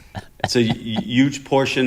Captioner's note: laughter